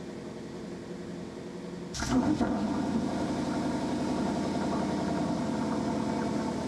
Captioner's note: engine noise